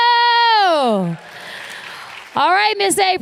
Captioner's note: applause